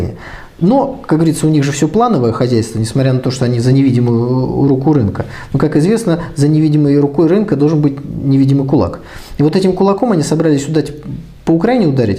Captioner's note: Ukrainian